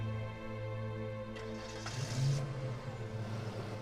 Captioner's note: car engine starts